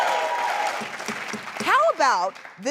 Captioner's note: cheering; gavel banging